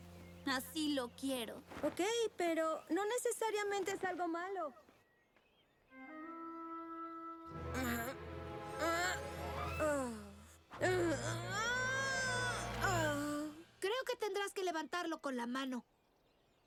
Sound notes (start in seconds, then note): 8.8 grunt